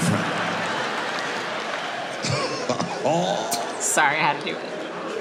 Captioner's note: audience laughing